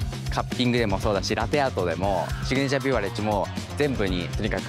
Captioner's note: speaking japanese